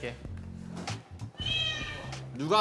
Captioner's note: meow